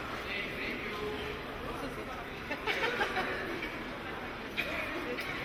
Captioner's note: audience chattering faintly